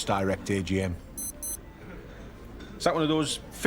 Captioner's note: beeping